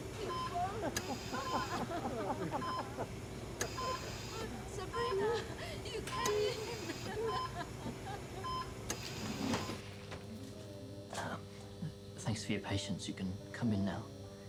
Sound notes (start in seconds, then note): 8.4 cries